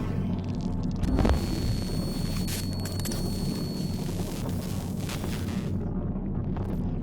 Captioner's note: static, high-pitched ringing